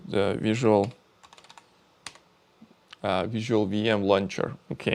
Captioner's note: keyboard clicking